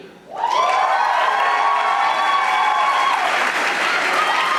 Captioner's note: audience applauding